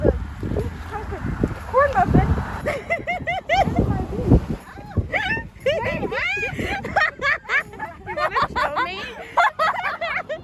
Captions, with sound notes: -Oh! I have a -- corn muffin -- -(giggles) -in my boob! -(screaming and laughing) -Are you filming? (laughing)